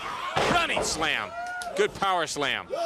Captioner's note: crowd chatter